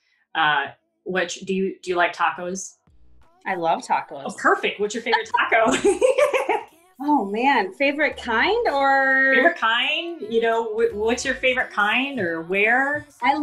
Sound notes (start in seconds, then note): 5.1 laughs softly